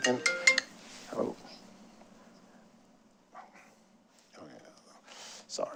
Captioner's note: phone ringing